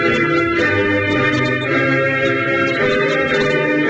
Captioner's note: none